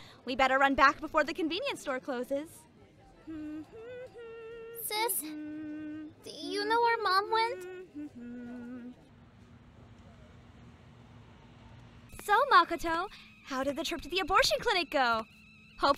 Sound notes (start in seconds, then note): 3.2 KOTONOHA hums